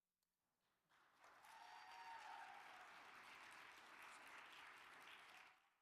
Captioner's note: audience applauds and cheers